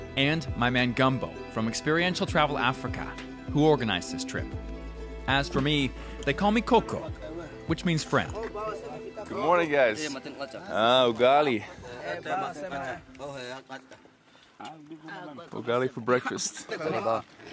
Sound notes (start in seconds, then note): 12.1 group chattering